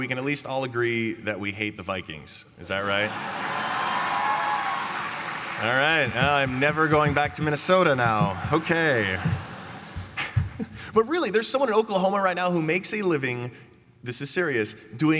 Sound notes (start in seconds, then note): 2.8 cheering; 9.8 laughs